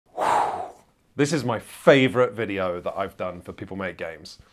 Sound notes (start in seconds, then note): 0.1 exhales loudly